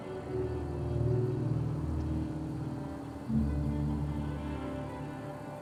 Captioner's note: car engine humming